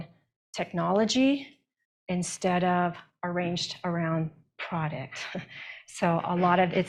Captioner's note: chuckles